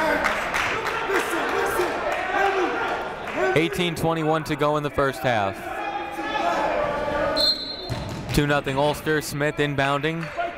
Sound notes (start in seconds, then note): 7.3 whistle blowing